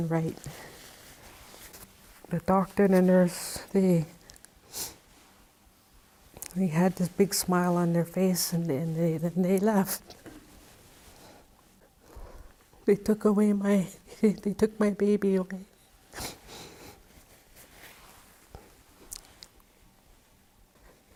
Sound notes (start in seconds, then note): 8.7 she quietly cries